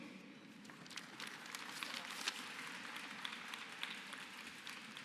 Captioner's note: applause